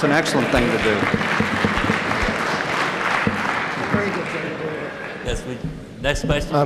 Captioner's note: applause